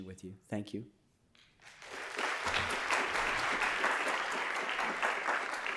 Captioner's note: applause